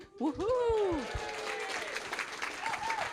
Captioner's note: applause and cheering